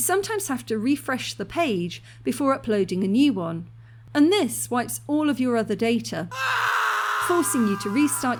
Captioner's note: scream